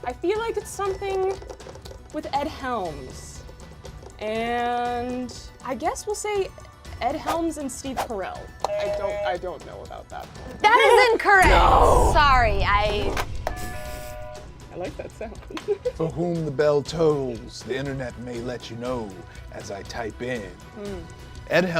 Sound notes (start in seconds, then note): 8.6 buzzer buzzes; 13.5 buzzer buzzes; 15.4 laughs